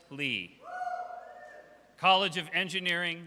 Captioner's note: audience cheers